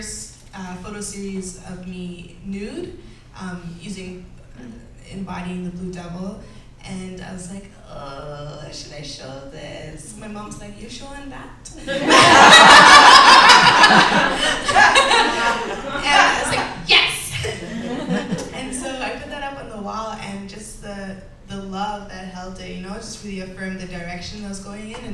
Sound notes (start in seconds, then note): 14.9 laughter